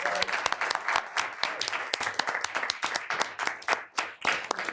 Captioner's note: everyone applauding